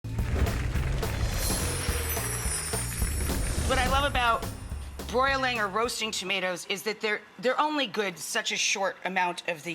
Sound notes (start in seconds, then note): 0.0 bass guitar music; 1.4 chimes